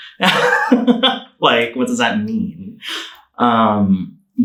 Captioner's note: laughing